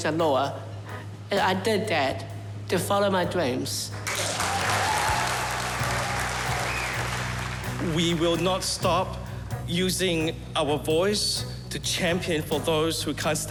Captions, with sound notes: the law, and I did that, to follow my dreams. (CHEERS AND APPLAUSE) - We will not stop using our voice to champion for those who can't